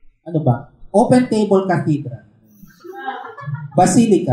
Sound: laughter

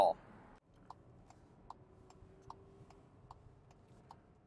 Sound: car signal ticking

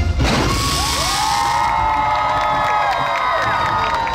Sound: audience Cheering

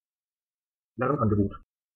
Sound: fast Pronunciation

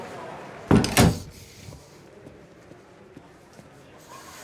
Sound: door banging

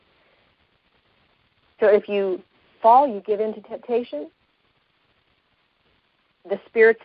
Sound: pause

